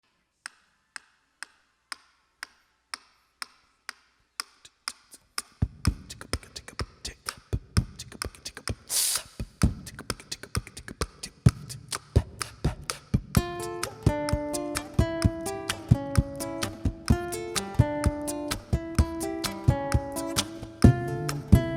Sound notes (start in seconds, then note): 0.8 wooden spoon on shoe percussion; 5.8 beat boxing / vocal instrumentation; 19.5 guitar...vocal instrumentation...wooden shoe percussion